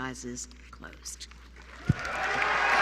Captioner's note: applause